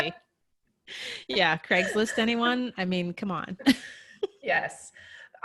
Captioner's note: laughs; laughs